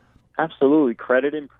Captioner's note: voiceover